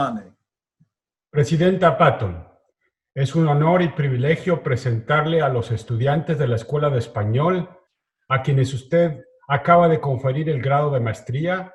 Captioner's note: speaks Spanish